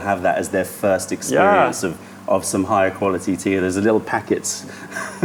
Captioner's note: laughter